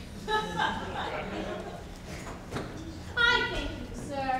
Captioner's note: audience laughs